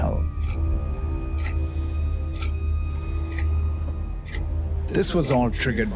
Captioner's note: loud ticking sound resumes